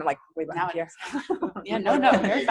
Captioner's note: laughing